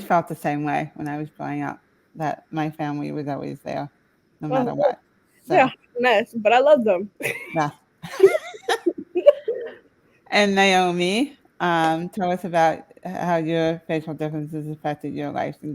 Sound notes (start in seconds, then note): 8.0 laughing